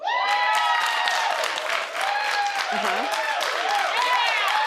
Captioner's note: crowd applauding